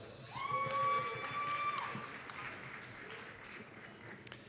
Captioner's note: applause, cheering